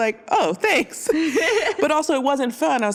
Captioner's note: laughs